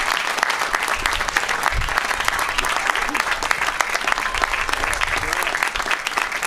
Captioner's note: applause